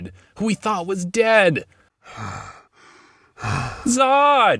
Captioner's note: breathing Heavily